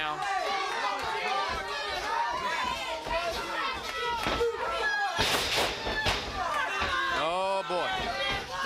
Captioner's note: crowd chatter